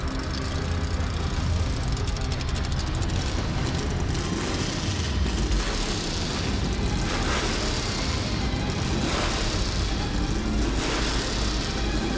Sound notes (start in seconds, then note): 2.4 dramatic music continues; 7.4 engine revving